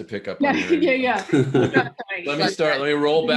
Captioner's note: both laughing